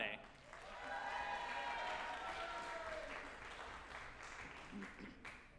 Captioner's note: group applauding and cheering